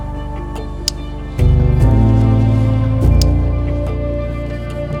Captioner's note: safety jacket tie clicks